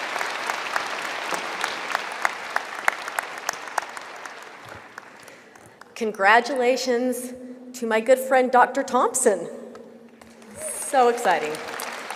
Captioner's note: applause